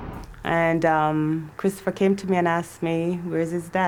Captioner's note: none